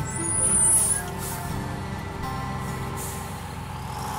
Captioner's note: bus whirring